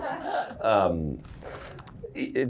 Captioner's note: laughter